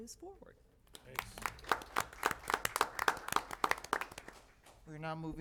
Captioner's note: applause